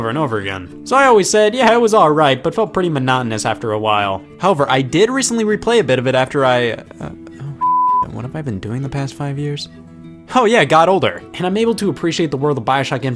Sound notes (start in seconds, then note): 7.6 beep